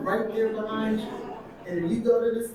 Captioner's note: audience laughing